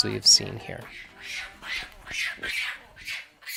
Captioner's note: monkeys screeching